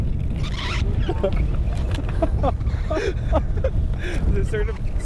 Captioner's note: laughing